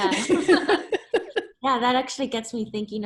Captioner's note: laughs